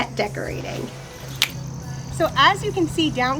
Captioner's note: fingers click